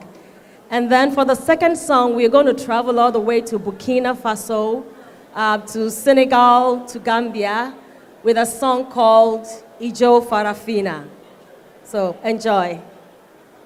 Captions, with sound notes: And then for the second song, we're going to travel all the way to Burkina Faso to Senegal to Gambia with a song called [foreign language]. So enjoy.